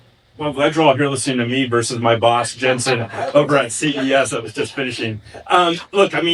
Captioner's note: laughing